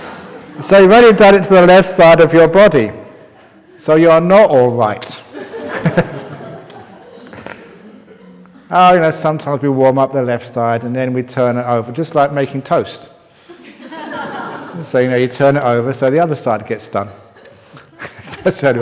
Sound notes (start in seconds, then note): 5.2 laughter; 13.4 laughter; 17.2 chuckles